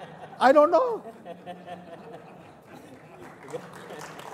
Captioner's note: laughter